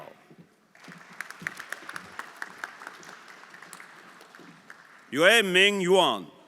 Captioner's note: everyone applauding